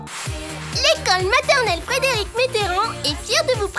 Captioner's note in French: voix d'enfants